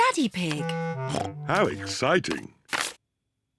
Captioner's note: snorts